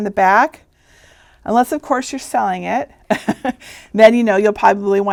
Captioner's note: chuckling